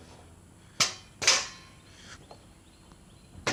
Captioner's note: clanging sound